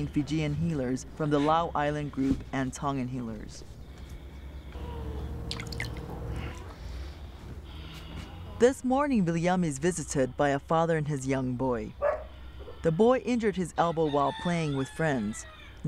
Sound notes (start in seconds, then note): 12.0 dog barking; 14.0 rooster crowing